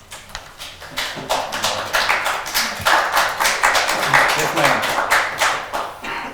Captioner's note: audience applauds